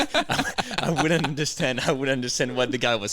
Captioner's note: laughing